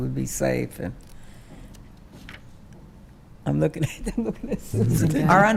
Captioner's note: laughing